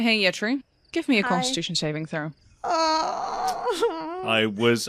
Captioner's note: groans